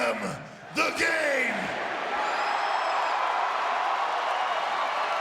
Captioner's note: audience cheering